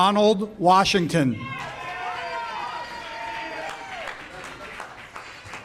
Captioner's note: audience cheers